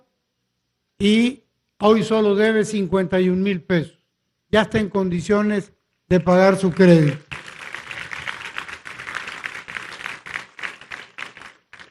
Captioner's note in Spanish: aplausos